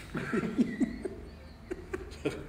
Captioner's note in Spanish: Risas